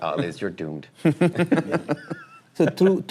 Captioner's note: laughter